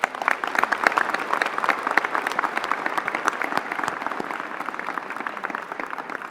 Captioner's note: applause